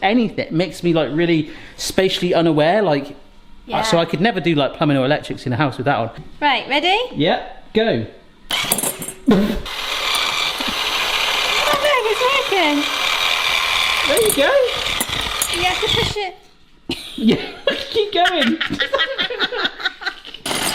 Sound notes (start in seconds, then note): 9.6 whisk whirring; 16.9 both laughing